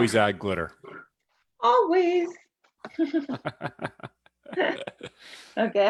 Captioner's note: laughs